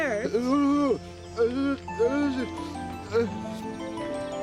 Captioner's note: distressed mumbling